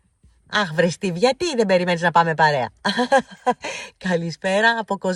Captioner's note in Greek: γέλια